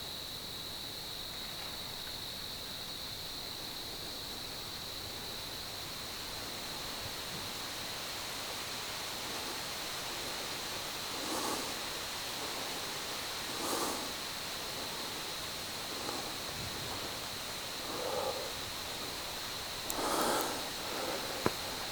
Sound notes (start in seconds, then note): 0.1 insects; 11.3 insects / heavy breathing